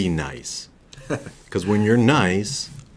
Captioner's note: laughs